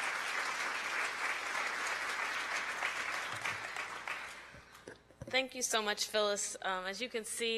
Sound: applause

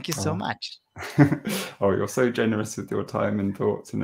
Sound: laughing

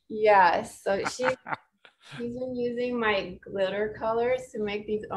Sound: laughs

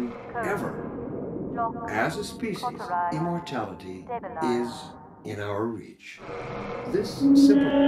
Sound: Overwatch Voice in Background, Citadel on alert

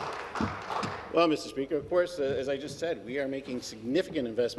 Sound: some Applause

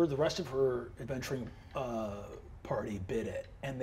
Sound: none

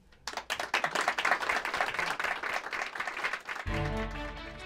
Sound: applause

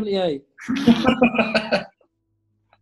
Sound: laughter

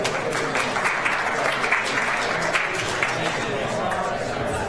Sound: audience applauds

